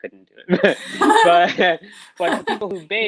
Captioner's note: both laughing